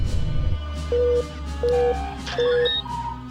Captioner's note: dramatic music; red alert klaxon beeping